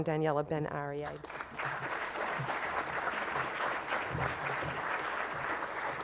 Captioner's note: applause